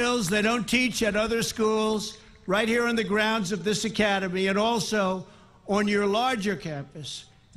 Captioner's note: applause